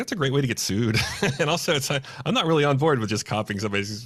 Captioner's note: laughs